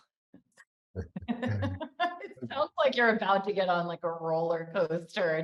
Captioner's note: laughs